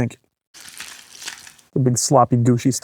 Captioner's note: swab and goop swishing